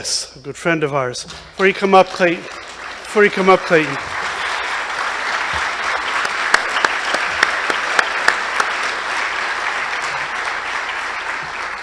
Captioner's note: applause